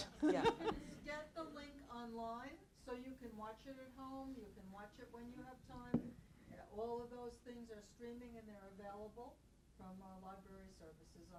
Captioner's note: laughter